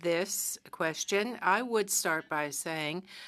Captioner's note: speaking French